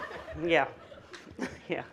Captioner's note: audience laughing